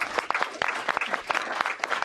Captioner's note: applause